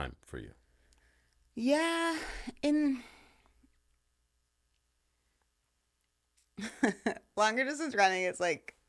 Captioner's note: laughing